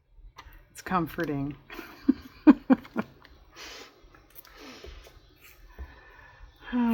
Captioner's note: laughs